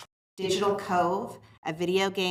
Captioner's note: none